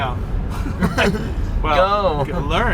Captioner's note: laughing